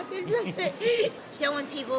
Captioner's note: laughter